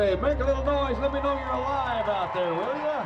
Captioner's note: crowd cheers